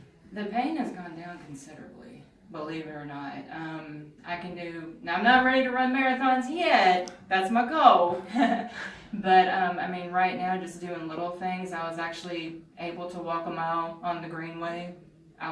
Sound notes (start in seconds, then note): 8.2 laughs